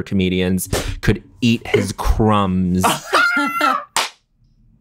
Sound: john cackling

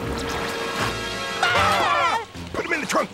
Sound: screaming

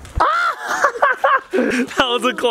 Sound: laughs

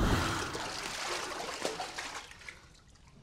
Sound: water splashing

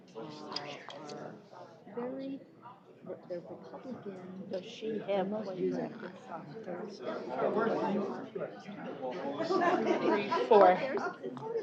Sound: off-mic chatter

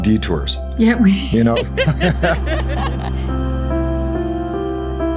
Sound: laughter

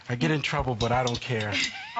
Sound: laughter

